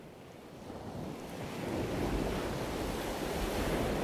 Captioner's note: ocean waves